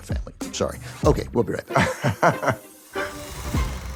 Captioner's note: laughs; theme music transition